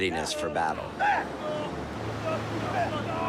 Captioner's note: battle cries